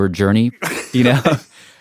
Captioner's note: laugh